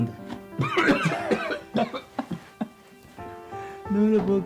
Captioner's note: character coughing